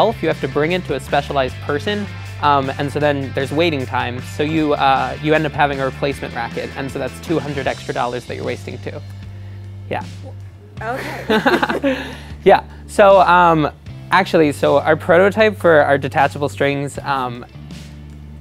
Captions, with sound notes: you have to bring it to a specialized person. And so then there's waiting time. So you end up having a replacement racquet. And so that's 200 extra dollars that you're wasting, too. Yeah. - Okay. ( laughter ) - Yeah, So, actually, so our prototype for our detachable strings--